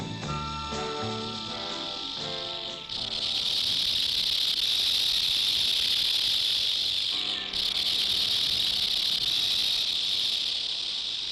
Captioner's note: snake rattling